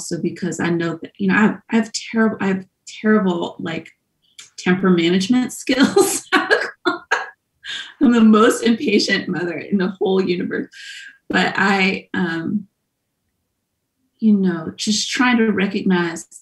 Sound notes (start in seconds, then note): 6.0 laughs loudly